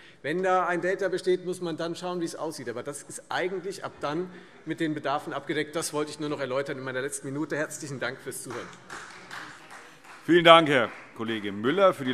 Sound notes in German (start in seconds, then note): 8.4 Beifall Freie Demokraten